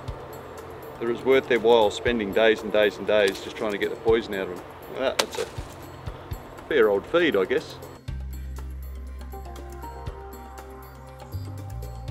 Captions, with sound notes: that it was worth their while, spending days and days and days, just tryin' to get the poison out of 'em. (seeds and leaves rustle) Well, that's it. Fear or feed, I guess. (upbeat electronic music)